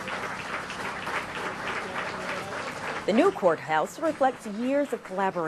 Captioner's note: applause